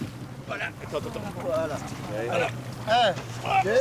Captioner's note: crew speaking French